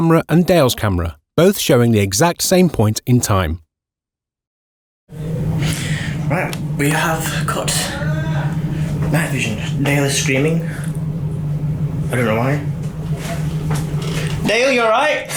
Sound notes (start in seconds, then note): 7.9 male screaming noise